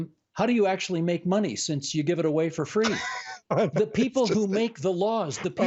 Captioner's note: laughter